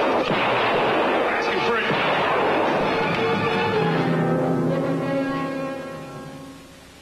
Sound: gunfire

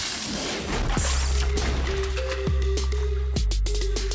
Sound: slamming

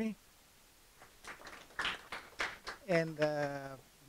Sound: audience applauding

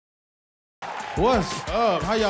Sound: cheers and applause

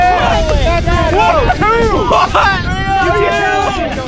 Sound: shouting

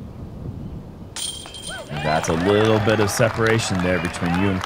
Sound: cheering

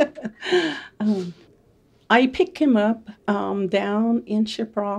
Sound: laughing

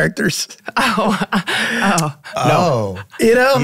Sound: laughing

